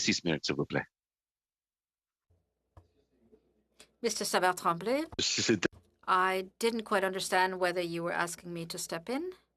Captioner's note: speaking French